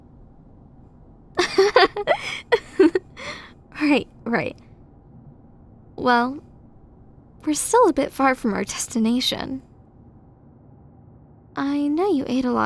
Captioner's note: laughs